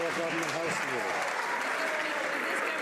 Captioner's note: some Applause